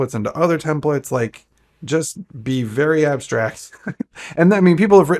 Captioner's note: chuckles